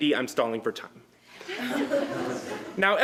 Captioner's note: laughter